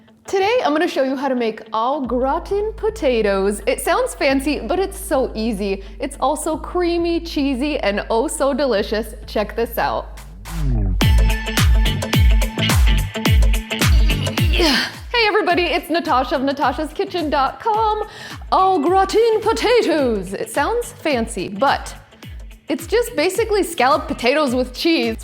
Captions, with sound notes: - Today, I'm gonna show you how to make au gratin potatoes. It sounds fancy, but it's so easy. It's also creamy, cheesy, and oh, so delicious. Check this out. (gentle upbeat music) (grunts) Hey, everybody. It's Natasha of natashaskitchen.com. Au gratin potatoes. It sounds fancy, but it's just basically scalloped potatoes with cheese.